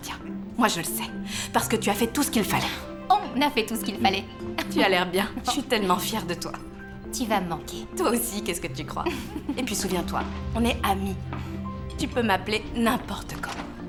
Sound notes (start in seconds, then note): 9.0 laughing